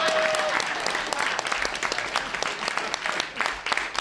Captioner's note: applause